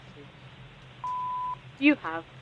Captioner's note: beep